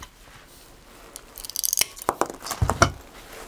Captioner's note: cracking